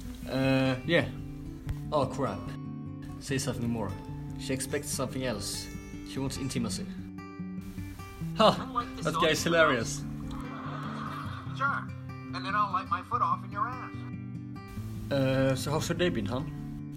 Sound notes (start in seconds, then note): 10.3 forced laughter; 10.7 comedy strip audible from the TV